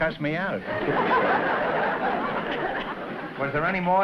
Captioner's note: laughter